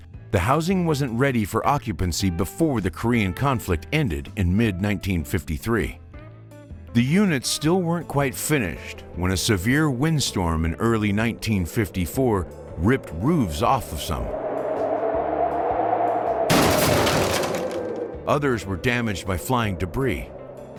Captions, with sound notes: the housing wasn't ready for occupancy before the Korean conflict ended in mid 1953. The units still weren't quite finished when a severe windstorm in early 1954 ripped roofs off of some. (wind sound) (crashing noise) Others were damaged by flying debris.